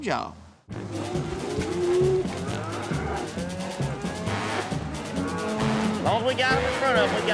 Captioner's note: mooing